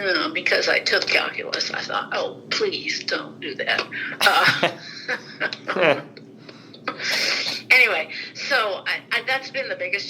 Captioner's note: both laugh